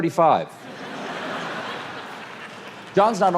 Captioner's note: audience laughs